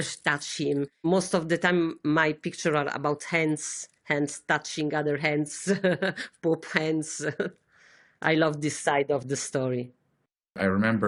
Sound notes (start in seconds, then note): 6.6 laughter